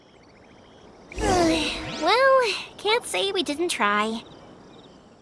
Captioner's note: sigh